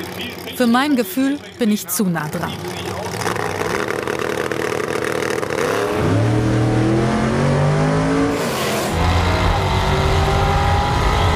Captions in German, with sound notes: Für mein Gefühl bin ich zu nah dran. (Motorenheulen)